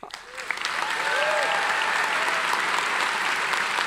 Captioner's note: applauding